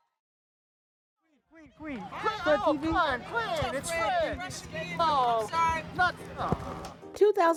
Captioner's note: shouts